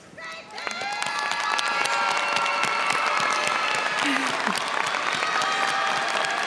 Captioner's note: audience cheers and applauds